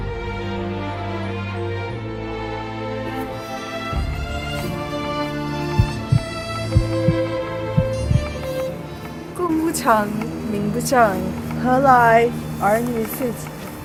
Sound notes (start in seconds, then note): 5.6 heart thumping